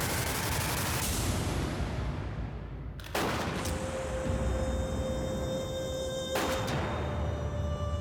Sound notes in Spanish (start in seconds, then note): 2.9 detonaciones de disparos